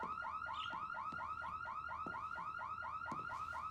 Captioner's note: birds chirping